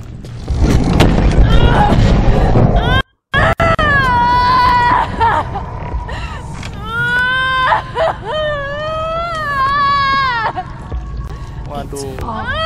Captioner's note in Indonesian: teriakan putus asa